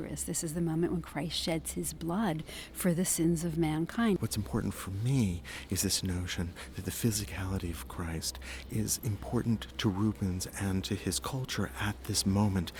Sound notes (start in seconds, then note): 4.4 voiceover